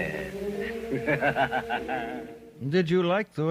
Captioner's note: laughing